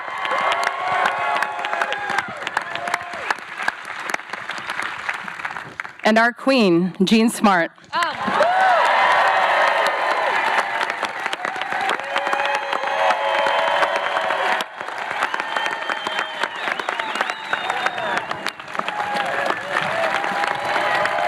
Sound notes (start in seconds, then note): 0.0 applause continues; 8.4 cheering; 9.0 applause; 15.2 whistling; 17.1 applause, cheering continues